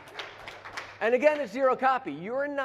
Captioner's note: applause